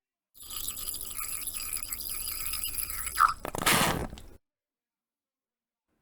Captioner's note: liquid pouring sound